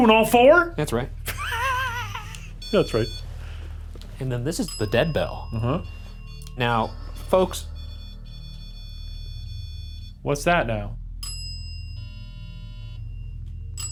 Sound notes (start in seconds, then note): 2.6 beep; 8.2 continuous beeping; 11.2 bell dings